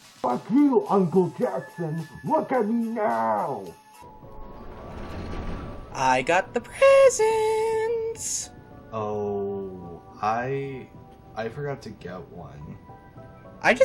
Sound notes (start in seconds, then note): 4.0 automatic door opens